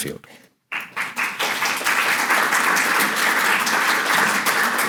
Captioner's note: audience applauds